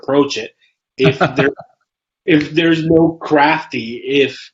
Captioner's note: laughs